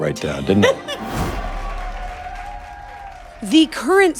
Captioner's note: laughs; people cheering